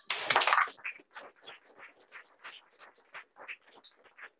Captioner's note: applause